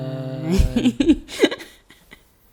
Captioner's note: laughing